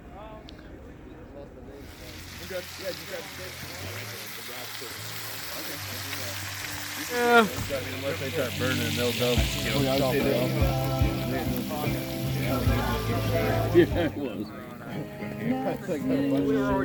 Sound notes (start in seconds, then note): 2.6 meat sizzling; 8.2 upbeat music